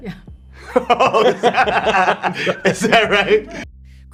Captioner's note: laughing